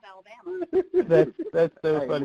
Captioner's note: laughing